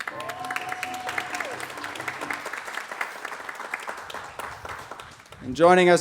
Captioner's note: applause